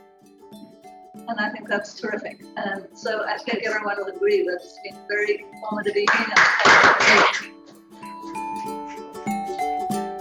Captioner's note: clapping